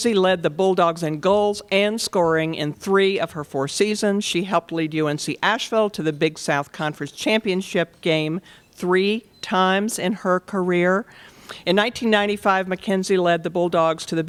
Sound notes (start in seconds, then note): none